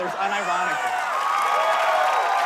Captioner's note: cheering, applause